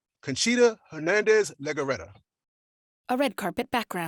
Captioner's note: speaking Spanish